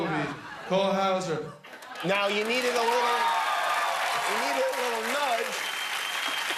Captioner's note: cheers and applause